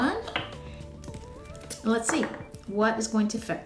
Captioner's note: clicking